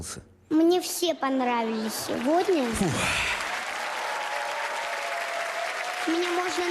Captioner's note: laugh, applause